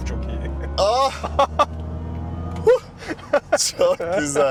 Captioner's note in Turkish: kahkaha